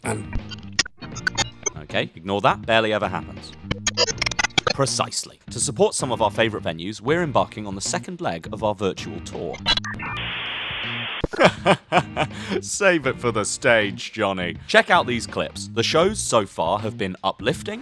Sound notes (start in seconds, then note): 0.1 scramble sound effect; 3.4 scramble sound effect; 9.5 scramble and internet dial up sounds